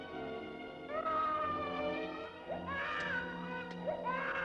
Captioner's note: baby crying